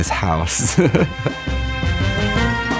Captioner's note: laughing; upbeat music